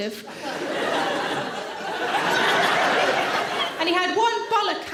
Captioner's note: audience laughing